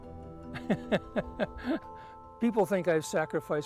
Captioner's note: laughs